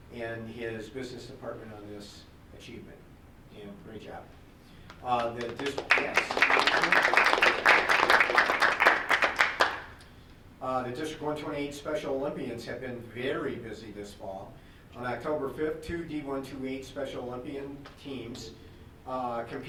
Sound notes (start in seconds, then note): 7.7 group applauding